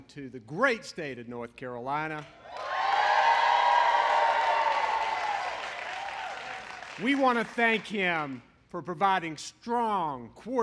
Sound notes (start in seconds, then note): 2.4 applause